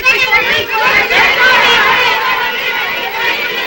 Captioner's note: shouting all at once